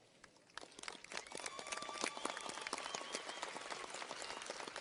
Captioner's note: audience cheers and applauds